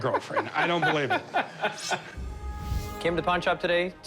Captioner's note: laughs